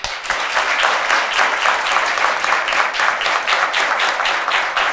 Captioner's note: attendees applaud